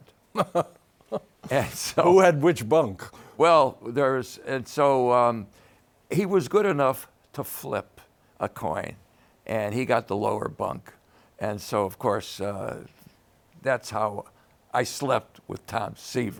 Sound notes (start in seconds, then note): 0.3 laughs